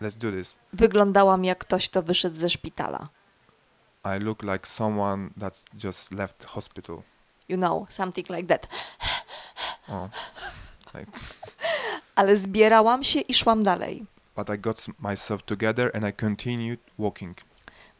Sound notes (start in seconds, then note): 8.6 hard breathing